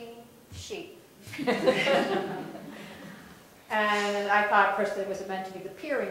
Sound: laugh

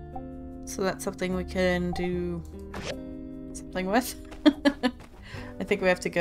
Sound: laughs

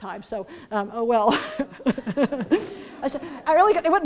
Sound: laughter

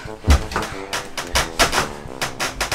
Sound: wood creaking

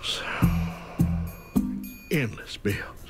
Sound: sighs

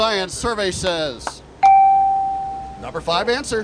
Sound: bell

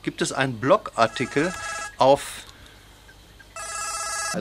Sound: cameraman´s cellphone rings

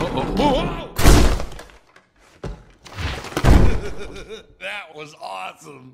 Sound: The dresser falls on Sulley, who only laughs

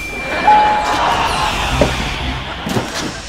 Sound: laughing

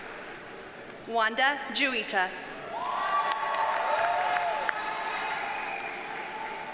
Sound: audience cheers and applauds

